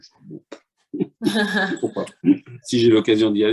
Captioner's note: laughter